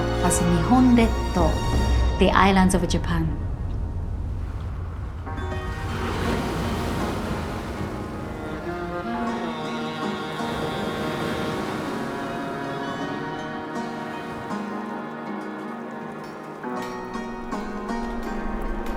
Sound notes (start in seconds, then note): 0.3 speaking Japanese; 5.8 gentle thoughtful music; 5.8 waves sloshing